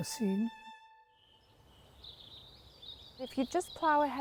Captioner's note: birds singing